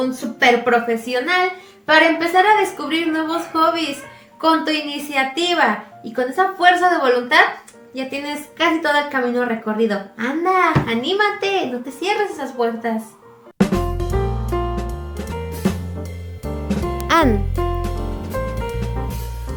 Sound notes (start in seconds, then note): 16.7 in the Mixe language of Oaxaca